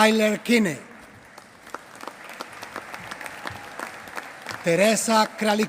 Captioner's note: applause